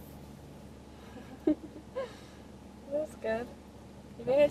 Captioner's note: laughing